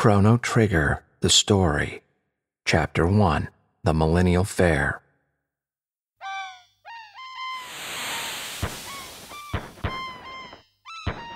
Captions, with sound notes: Chrono Trigger, the Story. Chapter One, the Millennial Fair. (birds cawing) (fireworks popping)